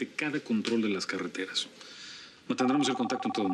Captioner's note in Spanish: suena el teléfono